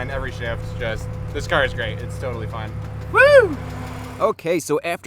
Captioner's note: excited "whooo" noise